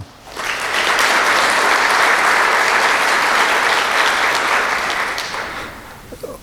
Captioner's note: applause